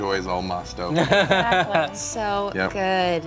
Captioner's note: laughs